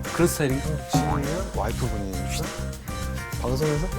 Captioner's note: talking aloud to himself